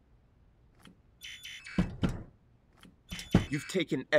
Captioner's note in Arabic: طنين الخطأ